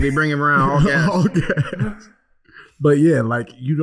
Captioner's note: laughing